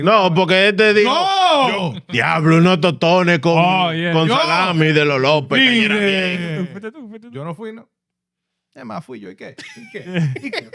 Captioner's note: speaking In Foreign Language; laughing